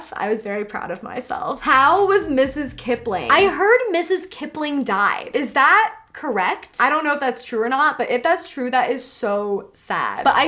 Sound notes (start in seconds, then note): none